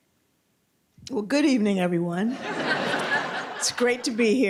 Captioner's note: laughter